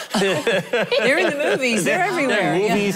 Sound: laughing

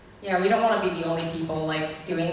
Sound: voiceover

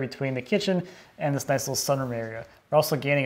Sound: none

